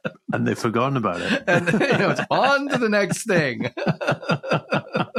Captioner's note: laughs